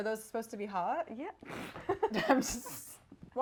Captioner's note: laughs